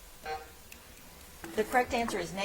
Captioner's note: timer buzzing